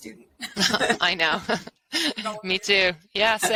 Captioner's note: laughs